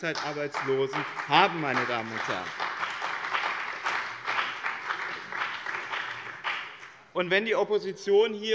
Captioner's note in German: Beifall bei dem BÜNDNIS 90/DIE GRÜNEN und der CDU